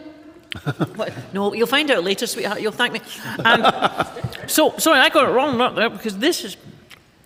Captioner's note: laughter